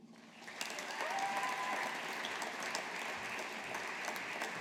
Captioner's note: audience applauding